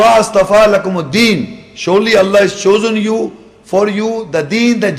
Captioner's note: Arabic; Arabic